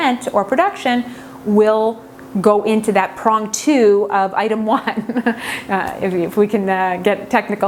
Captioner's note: laughs